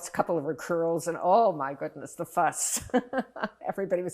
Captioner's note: laughing